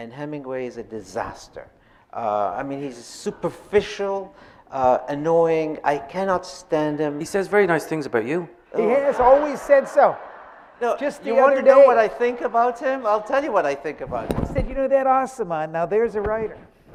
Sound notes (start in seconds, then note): 8.7 audience laughing